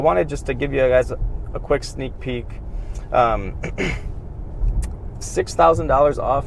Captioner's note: clears throat